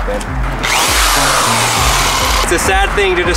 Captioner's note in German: Stichsäge-Geräusch